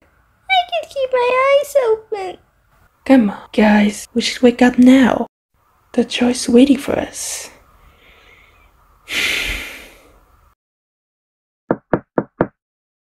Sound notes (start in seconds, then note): 11.7 knocks